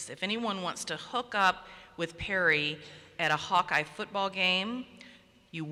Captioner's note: none